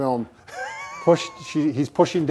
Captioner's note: laughs